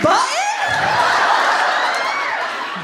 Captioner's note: laughter